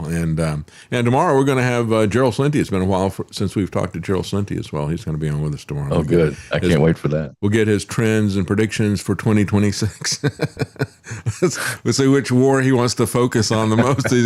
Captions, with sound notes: And tomorrow we're gonna have Gerald Slinty, since we've talked to Gerald Slinty as well. He's gonna be on with us tomorrow. Oh good, I can't wait for that. We'll get his trends and predictions for 2026. (Laughs) We'll see which war he wants to focus on the most.